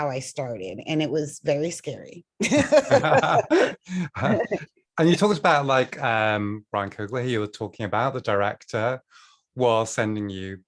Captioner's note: laughter